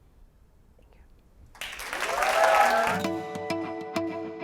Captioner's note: applause